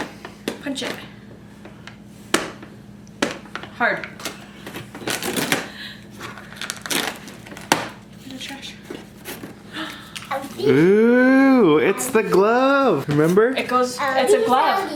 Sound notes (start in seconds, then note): 9.7 gasping